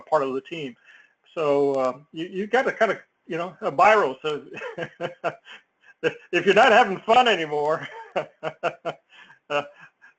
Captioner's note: laugh